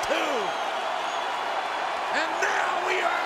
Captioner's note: applause